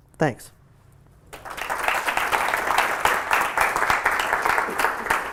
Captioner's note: applause